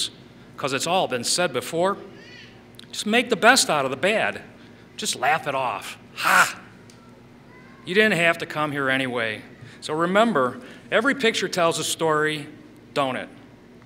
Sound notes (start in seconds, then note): none